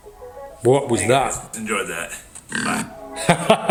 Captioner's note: laughs